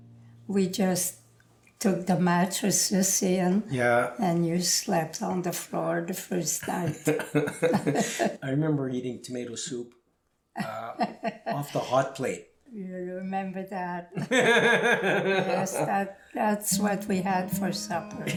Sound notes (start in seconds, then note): 6.2 laughter; 10.6 laughing; 14.1 laughing